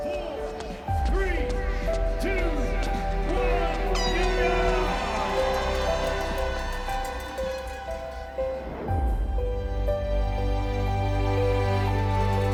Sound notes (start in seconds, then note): 3.2 air horn blaring; 9.0 gentle music continues